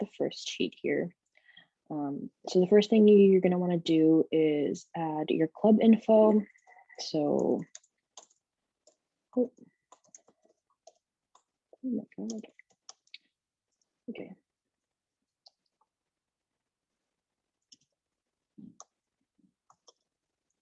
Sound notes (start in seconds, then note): 13.0 typing